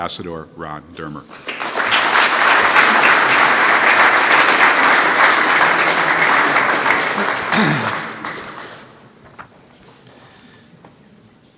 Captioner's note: applause